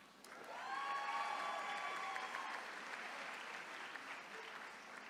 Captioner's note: attendees cheering